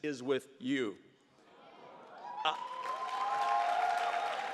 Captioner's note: audience cheers